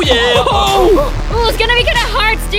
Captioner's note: cheering